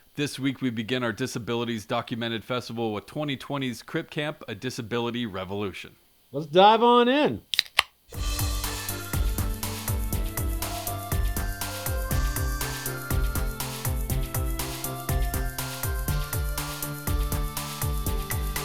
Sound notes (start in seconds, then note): 7.5 soda can opening; 8.7 lively music